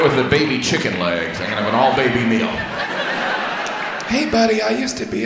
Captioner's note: audience laughs